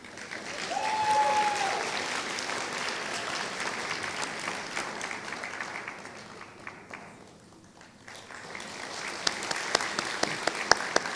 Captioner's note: applause